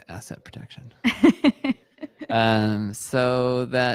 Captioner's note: laughing